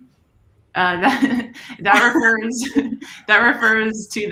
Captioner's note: laughter